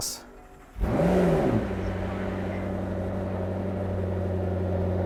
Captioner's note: engine revving